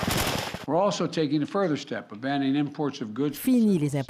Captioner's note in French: rafales de tirs